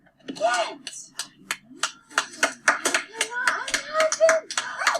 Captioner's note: children clapping